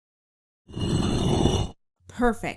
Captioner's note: stone sliding sound effect